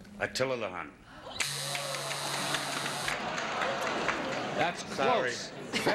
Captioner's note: buzzer sounds